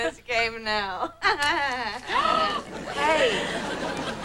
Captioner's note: cackling